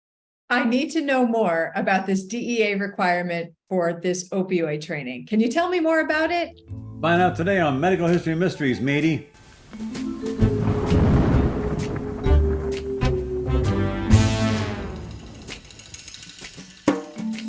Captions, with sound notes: - I need to know more about this DEA requirement for this opioid training. Can you tell me more about it? - Find out today on "Medical History Mysteries," Matey. (jazzy, suspenseful music) (thunder rumbling)